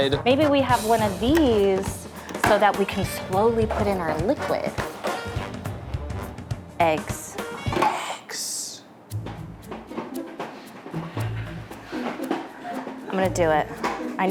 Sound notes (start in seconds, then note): 9.6 food processor rattling